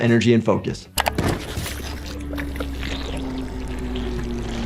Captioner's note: head gurgling